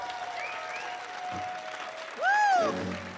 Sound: crowd cheering

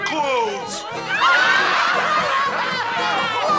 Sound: laughing

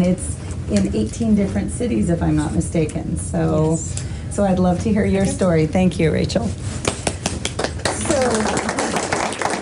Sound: applause

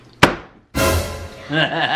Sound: hand smacking table; dramatic chord; laughs

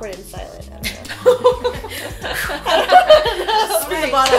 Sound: laughter

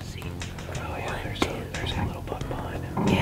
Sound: whispering

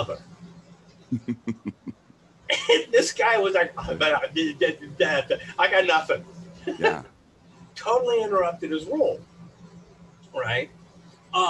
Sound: laughs

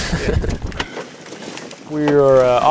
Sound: laughs

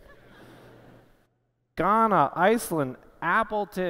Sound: laughter

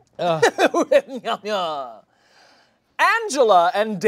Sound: laughing

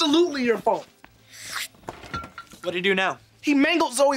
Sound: slurping

